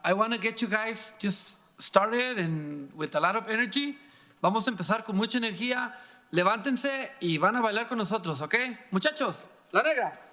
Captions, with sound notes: I want to get you guys started with a lot of energy. (speaking in foreign language)